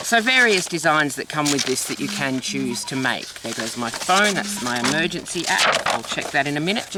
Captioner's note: phone beep